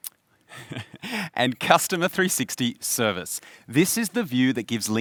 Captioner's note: laughs